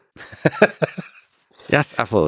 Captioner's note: Lex laughs